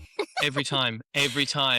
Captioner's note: laughs